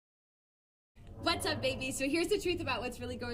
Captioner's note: waves, ship groaning